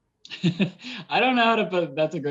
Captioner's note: laughs